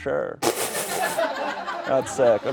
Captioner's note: laughter